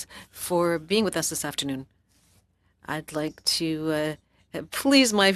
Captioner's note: speaking French